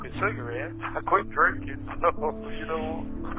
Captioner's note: laughing